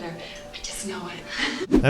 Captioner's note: chuckles